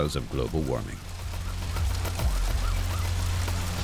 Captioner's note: sirens wailing in distance